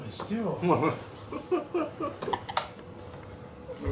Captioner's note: laughs